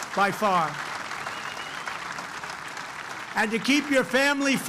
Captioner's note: applause